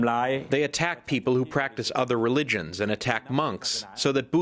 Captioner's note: through translator